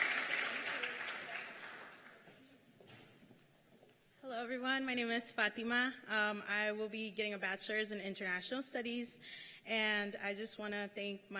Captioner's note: cheers and applause